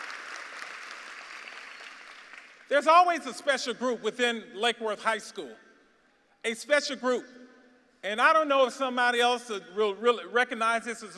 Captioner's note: applause